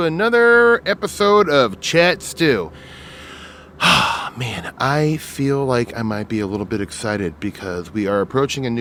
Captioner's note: sighs